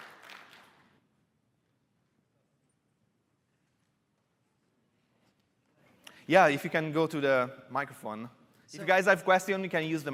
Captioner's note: applause